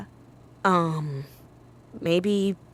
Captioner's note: a little awkwardly